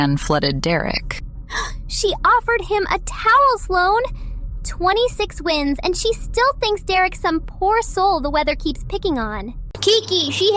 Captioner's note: gasp